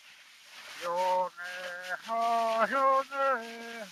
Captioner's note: recording playing